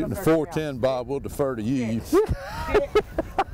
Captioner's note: laughing